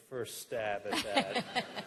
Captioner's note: laughter